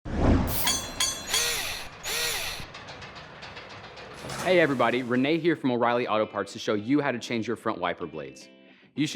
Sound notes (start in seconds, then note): 0.4 mechanical SFX